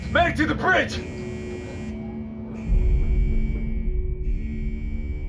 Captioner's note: alarm